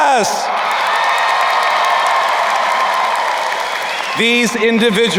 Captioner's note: crowd cheering and applauding